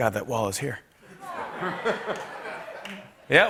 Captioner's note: laughter